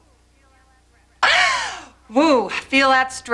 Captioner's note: sneezes